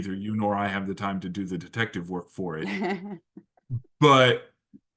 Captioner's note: laugh